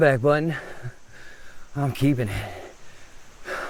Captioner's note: panting; insects chittering